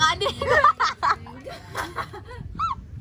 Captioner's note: all laughs